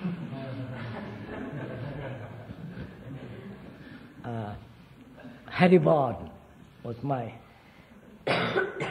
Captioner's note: laughter